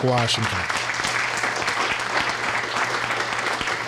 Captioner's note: applause